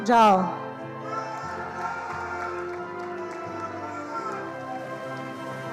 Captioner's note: attendees applauding